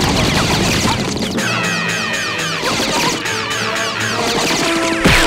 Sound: screaming

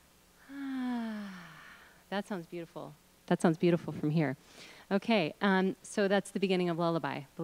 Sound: sigh; breathing sounds

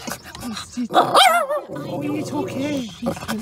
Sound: roar

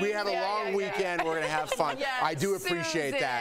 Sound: laughter

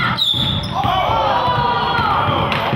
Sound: crowd

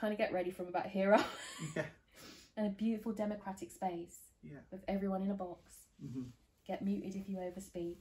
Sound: laughs

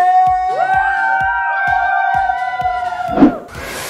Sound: cheers

